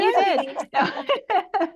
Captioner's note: laughter